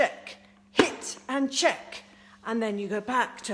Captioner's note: smacks